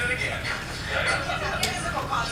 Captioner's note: laughter